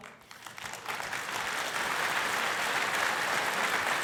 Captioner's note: crowd applauding